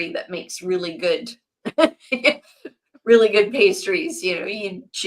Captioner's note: laughs